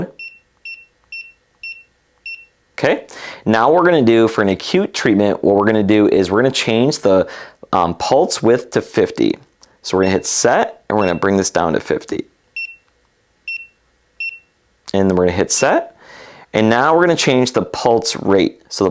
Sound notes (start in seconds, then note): 0.2 button beeping; 13.5 button beeping